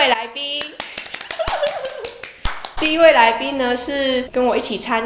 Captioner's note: laughs